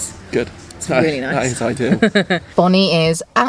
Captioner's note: chuckles